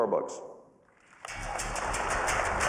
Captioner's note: cheers and applause